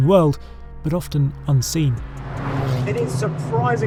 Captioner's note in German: Motorgeräusche